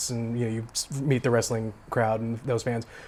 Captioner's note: none